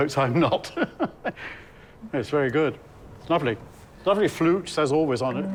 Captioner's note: laughing